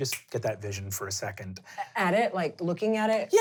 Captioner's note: snaps